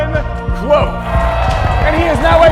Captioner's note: crowd cheering